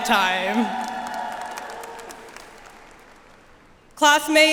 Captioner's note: attendees cheering and applauding